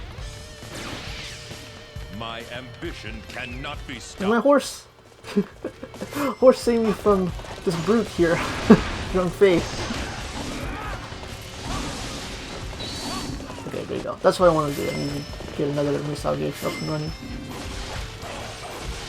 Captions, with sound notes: Where's my horse..? *chuckles* Horse please save from this brute here..! Zhang Fei! Ok there you go.. that's what I wanted to do I needed to get another musou gauge up and running!